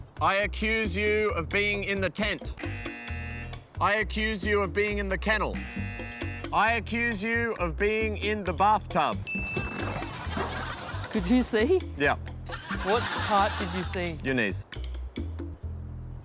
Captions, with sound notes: I accuse you of being in the tent. (BUZZER) I accuse you of being in the kennel. (BUZZER) I accuse you of being in the bathtub. (DING!) Could you see? Yep. What part did you see? Your knees.